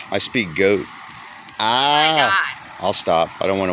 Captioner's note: braying like a goat